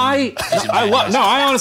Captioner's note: laughing